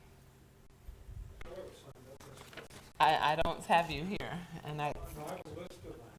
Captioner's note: speaking quietly